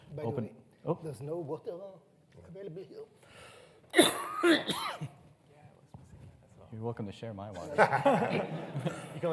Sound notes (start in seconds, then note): 3.9 coughs; 7.7 everyone laughs